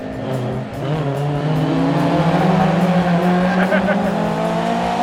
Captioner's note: car engine roaring; laughs